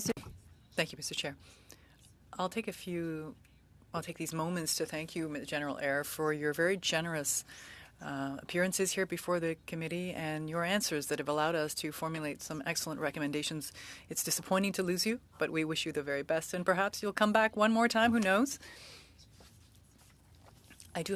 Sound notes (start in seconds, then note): 4.2 speaking French